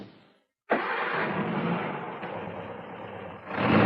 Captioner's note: engine starts